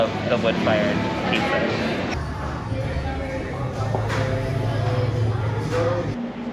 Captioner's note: sobbing at the empty plate